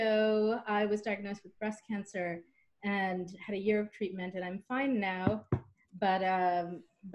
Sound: knock, knock

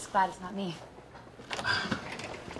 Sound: sighing

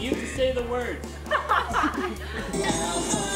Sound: laughing

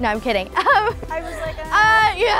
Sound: laughing

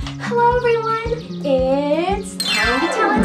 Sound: none

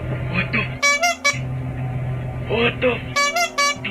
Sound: honking; honking

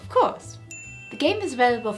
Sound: dinging

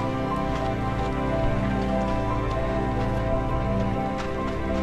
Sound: footsteps crunching

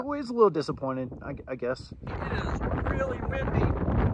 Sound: wind on mic makes it hard to hear

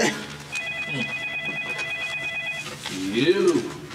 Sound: phone ringing

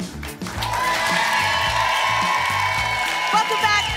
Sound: applause and cheering

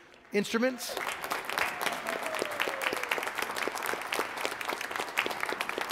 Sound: congregation applauding

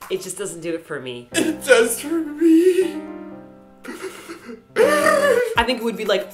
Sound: cries

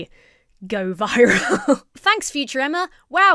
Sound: chuckles

